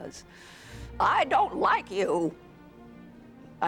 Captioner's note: Imitating Hepburn